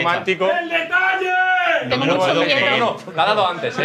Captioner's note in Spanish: grita